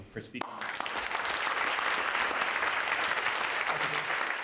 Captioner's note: all clapping